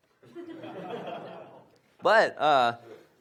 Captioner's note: audience laughs